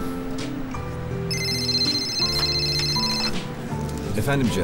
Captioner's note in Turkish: telefon sesi